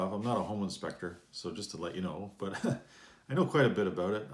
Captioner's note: chuckles